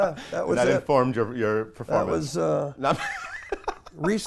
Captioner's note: laughs